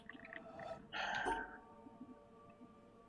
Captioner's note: sighs